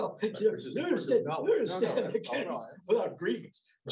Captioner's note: overlapping chatter